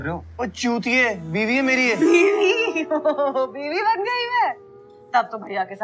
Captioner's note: Laughs